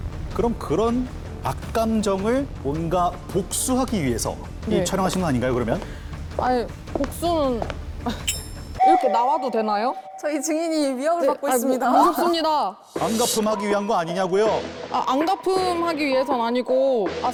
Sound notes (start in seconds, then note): 5.0 approaching footsteps; 8.8 sound effect of slowly getting scared; 13.0 unbothered sound effect